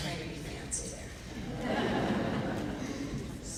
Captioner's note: laughing